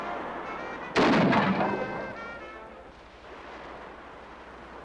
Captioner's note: gun fires